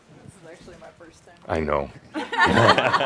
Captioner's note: laughter